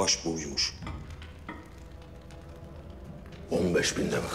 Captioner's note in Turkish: Ateş çıtırtıları sesleri